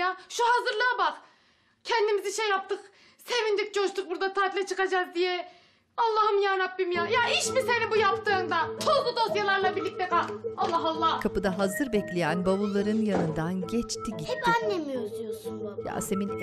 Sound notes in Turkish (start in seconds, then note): 12.4 Kapı gıcırtısı sesi; 12.4 Kapı kapanma sesi